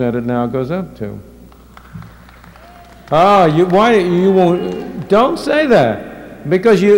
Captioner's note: applause